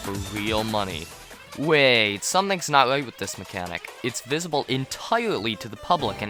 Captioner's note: warning noise